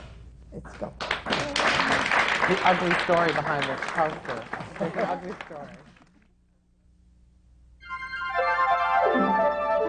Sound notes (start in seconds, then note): 4.1 applause